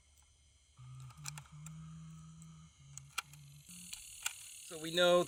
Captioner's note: clicking